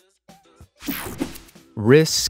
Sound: screen whooshing

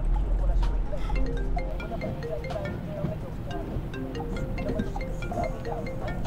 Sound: phone ringing

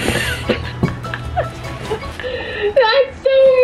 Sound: laughing

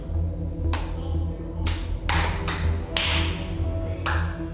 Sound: claps

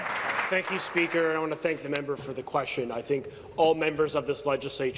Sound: applause

